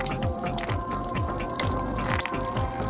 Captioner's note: sounds of beyblades on ice